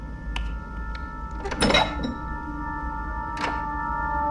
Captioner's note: locks